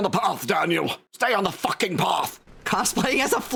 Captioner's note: in gruff posh voice